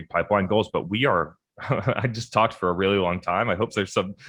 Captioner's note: chuckles